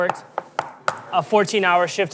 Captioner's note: tool tapping